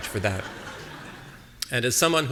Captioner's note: audience laughing